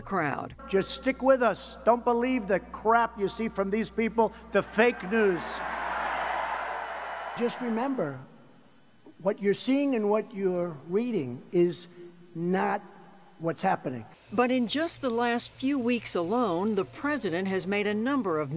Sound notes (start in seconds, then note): 4.6 cheering and applause